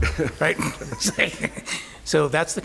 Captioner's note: laughter